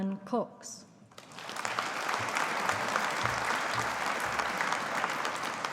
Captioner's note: audience applauding